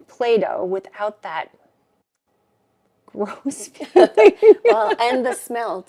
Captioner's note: both laughing